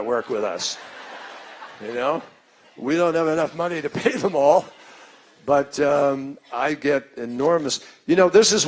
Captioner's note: laughter